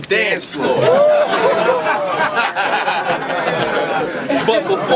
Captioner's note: crowd Reaction